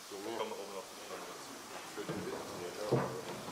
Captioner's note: snippets of conversation